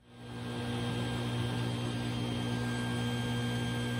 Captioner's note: dust collection and table saw noise